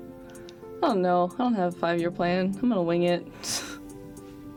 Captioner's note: scoff